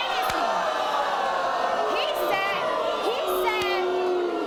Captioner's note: audience boos